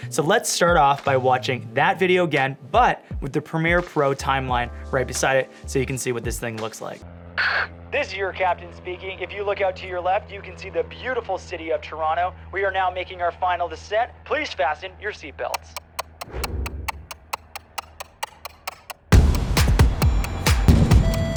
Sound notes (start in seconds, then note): 15.5 clock ticking; 19.3 energetic music